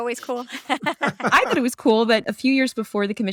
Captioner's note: laughter